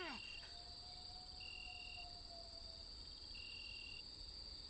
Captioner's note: insects chirping